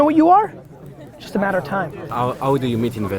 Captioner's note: tapping